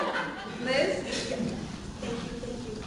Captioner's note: laughter